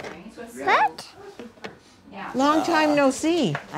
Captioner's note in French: le groupe bavarde